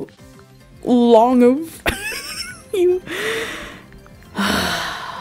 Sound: exhale; deep breath

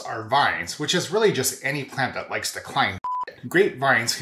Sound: beep

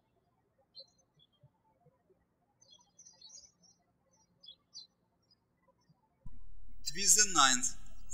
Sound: birds chirping

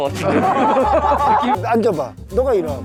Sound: laughing along

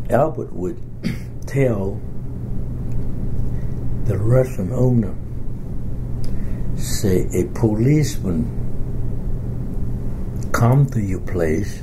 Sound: coughs

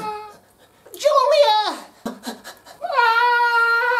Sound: panting

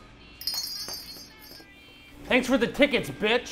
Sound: bells jingling

